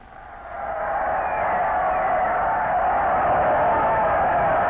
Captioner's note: crowd cheering